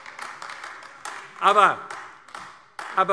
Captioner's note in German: Beifall AfD